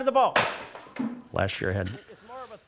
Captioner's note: bat hits floor